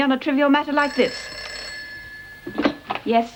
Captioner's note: phone rings